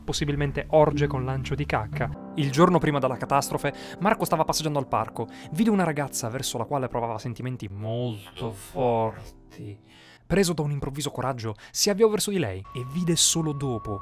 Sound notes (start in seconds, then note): 9.7 inhalation